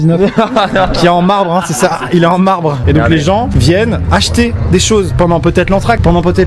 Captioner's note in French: rire